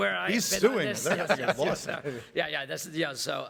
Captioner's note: laughs